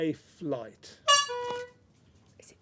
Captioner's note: honk